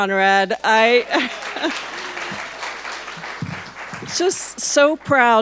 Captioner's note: audience applauding